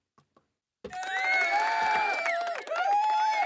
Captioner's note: cheering